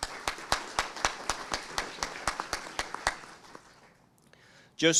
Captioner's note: audience applauding